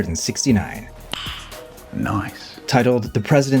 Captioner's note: loud vocal “click”